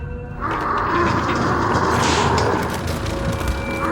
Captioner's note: roaring